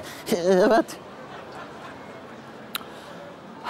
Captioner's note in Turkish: Gülme sesi